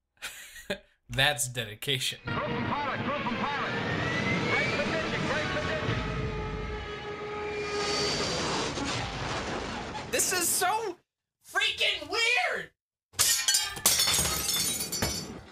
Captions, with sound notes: [chuckles] That's dedication. Crew from pilot! Crew from pilot! Brace for ditching! Brace for ditching! [ＣＲＡＳＨＩＮＧ ＮＯＩＳＥ] This is so freaking weird! [lamp shatters]